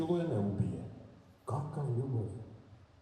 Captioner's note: sarcastic